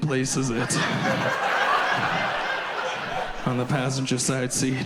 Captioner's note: audience laughs